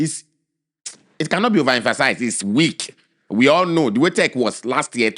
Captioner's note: lip smack